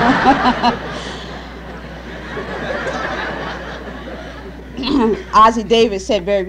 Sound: laughter

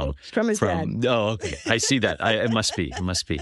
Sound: laugh

